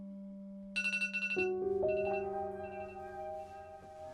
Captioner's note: phone alarm ringing; tense dramatic music